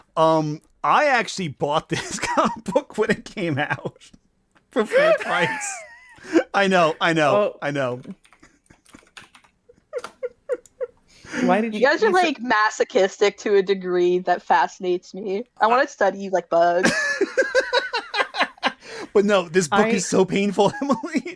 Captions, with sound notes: Um, I actually bought the book when it came out. For full price. I know. I know. I know. [chuckling] [keyboard clacking] - Why did you-- - You guys are, like, masochistic to a degree that fascinates me. I wanna study you like bugs. - [laughing] But no, this book is so painful, Emily!